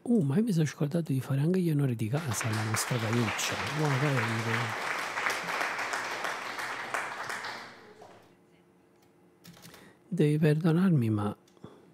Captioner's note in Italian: Applauso